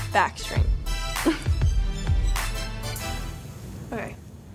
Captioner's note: chuckles